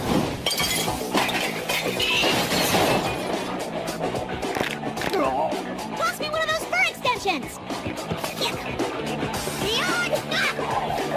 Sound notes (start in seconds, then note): 4.3 back cracks; 4.3 groans